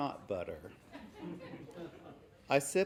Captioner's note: laughing